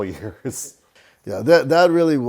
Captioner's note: laughs